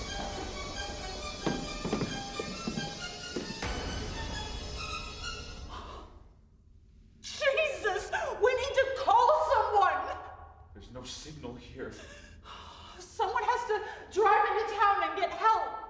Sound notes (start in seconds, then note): 5.7 gasps